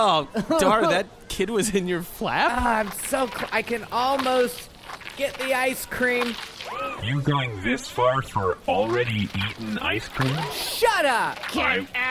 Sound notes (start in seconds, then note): 2.2 squelchy, moist noises